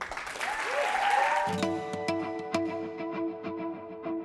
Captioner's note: applause